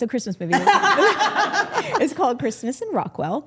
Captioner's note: group laughing